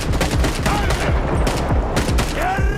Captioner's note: man screams; in Ukrainian